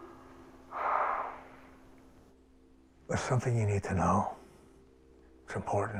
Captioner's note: sighs